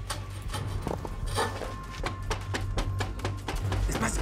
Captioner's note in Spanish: toques en la puerta